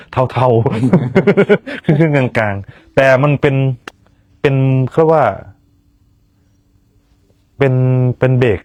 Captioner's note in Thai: เสียงหัวเราะ